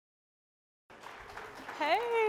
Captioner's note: applause